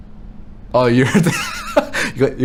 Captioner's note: laughs